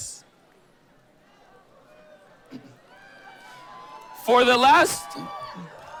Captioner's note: cheering